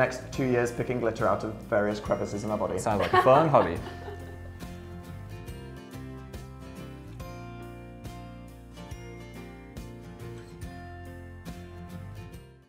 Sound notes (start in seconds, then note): 5.0 laughter; 6.0 cheerful music